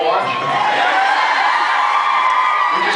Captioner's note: screams and cheers; laughs